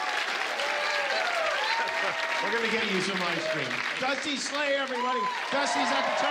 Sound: applause

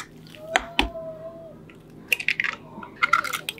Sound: cracking Egg

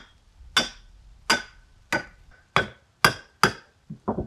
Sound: hammer clanks

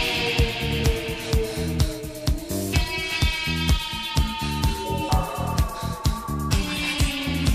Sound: deep breaths of a women trying to escape the wolf I assume

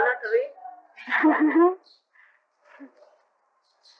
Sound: laughter

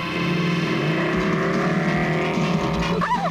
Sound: motorcycle engine revving

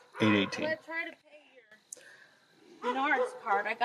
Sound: speaks faintly

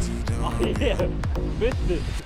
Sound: laughs

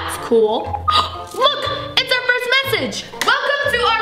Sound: beeping

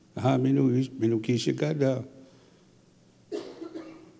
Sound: speaking Ojibwe

